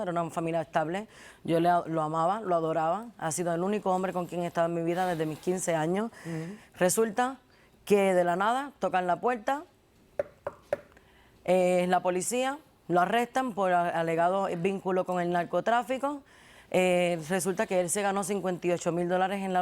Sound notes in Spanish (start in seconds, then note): 10.2 Golpecitos